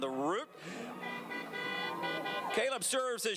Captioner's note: car horns honking